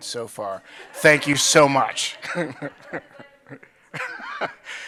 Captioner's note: audience chuckling; chuckles